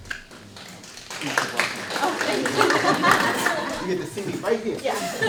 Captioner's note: audience clapping